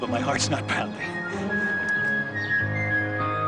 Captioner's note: laughing; bright music